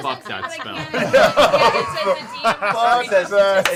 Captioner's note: laughter